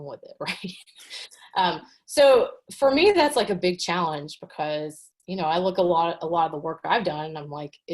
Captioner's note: chuckles